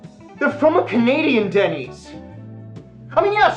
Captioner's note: none